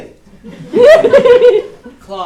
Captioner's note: audience laughs